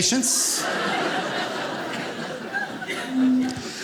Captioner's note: audience laughing